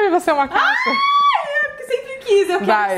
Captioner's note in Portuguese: grita